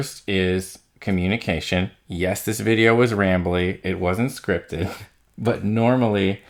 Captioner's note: laughs